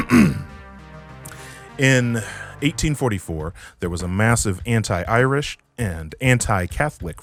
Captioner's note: ahem